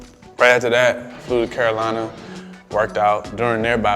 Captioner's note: plane engine roars